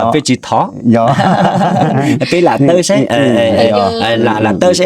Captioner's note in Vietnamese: tiếng cười